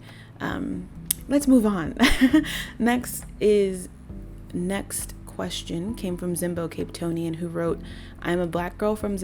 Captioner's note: laugh